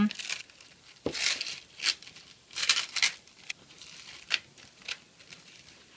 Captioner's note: plastic peeling